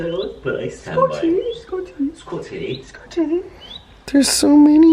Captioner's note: in various "English accents"